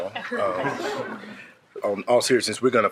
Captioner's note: all laughing